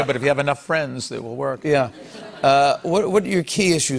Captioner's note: light laughter